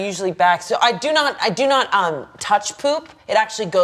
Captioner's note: stammering